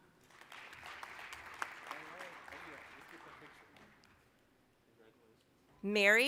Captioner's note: applause